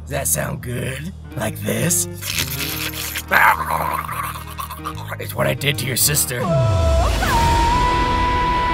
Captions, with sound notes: That sound good? Like this? *licking and gurgle sounds* It's what I did to your sister